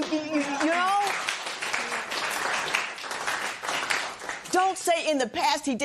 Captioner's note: applause